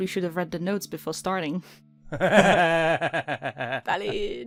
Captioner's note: laughter